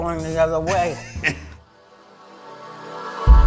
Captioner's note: laughs